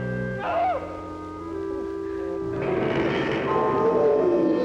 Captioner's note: animal noises